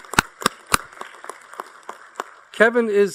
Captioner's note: applause